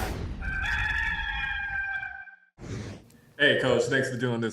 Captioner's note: rooster crows